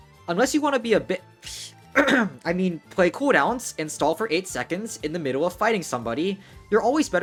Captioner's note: ahem